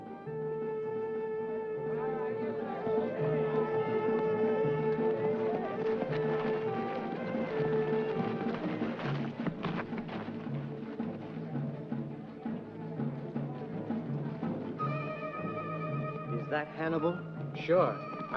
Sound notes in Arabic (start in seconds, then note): 0.0 موسيقى احتفالية مشؤومة; 5.9 خطوات بطيئة; 5.9 موسيقى احتفالية مشؤومة